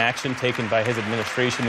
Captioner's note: applause